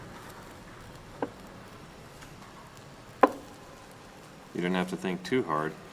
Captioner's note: chess pieces tapping